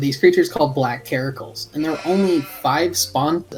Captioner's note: Karakul baahs